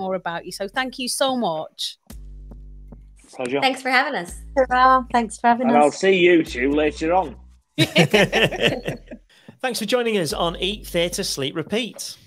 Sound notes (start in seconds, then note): 7.8 group laughing